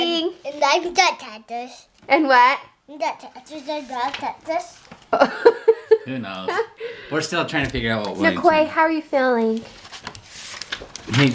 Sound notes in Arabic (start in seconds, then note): 0.2 طفل يثرثر; 5.1 يضحك